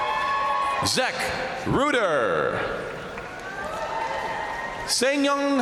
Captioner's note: crowd cheering